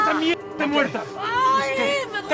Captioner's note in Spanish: Gritos